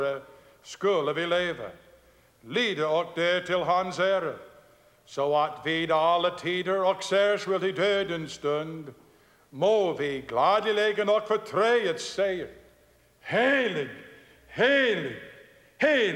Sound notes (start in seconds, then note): none